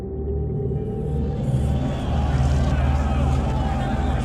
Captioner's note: trump rally in background